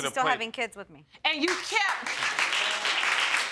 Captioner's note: applause